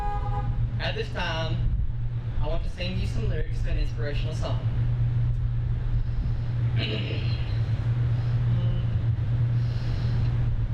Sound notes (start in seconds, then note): 0.0 horns honking; 6.8 clears throat